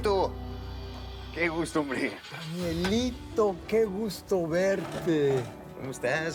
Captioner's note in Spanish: ruido al abrir